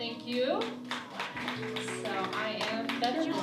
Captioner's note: audience applause